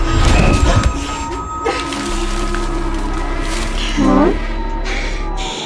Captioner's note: dramatic music; door slamming; Ally panting